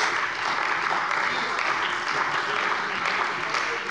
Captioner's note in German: Beifall bei der CDU und dem BÜNDNIS 90/DIE GRÜNEN